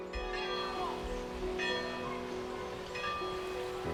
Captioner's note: bell clanging